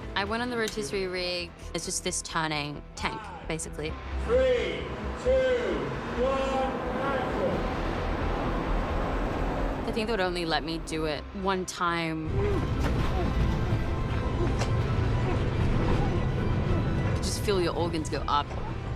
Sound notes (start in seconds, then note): 8.0 rig rumbles; 12.4 stunt person grunts